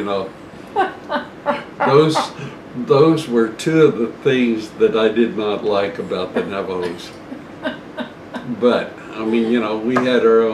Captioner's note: laughter